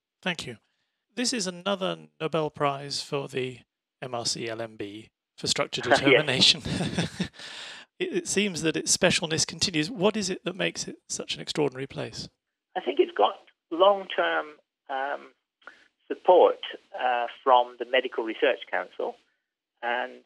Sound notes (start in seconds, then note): 5.6 laughs